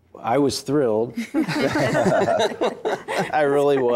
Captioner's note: laughter